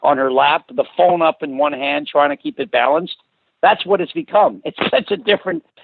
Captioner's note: laughs